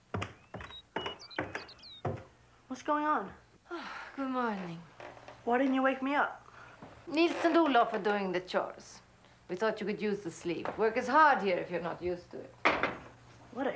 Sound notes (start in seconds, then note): 0.0 footsteps clomping